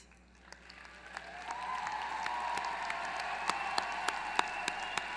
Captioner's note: applause